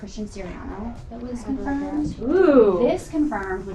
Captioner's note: woman's Voice